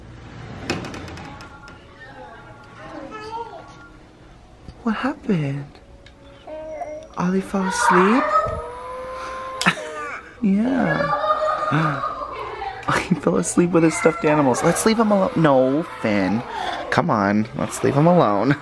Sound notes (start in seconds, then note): 0.0 door slides; 3.0 babbling; 11.8 children playing; 17.2 laughs